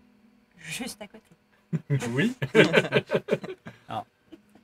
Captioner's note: chuckles; laughs